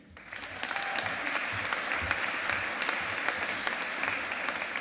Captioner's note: audience applauding